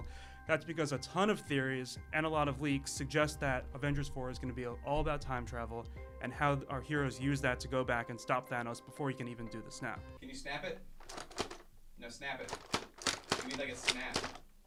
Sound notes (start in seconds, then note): 12.4 plastic clicking